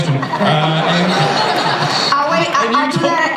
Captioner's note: laughter